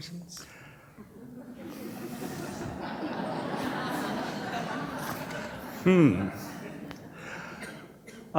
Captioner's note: laughter